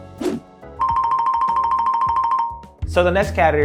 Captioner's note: bell tinkling